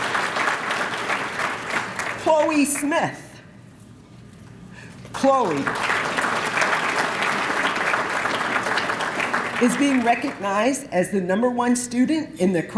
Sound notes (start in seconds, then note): 5.1 applause